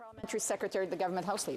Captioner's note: speaking French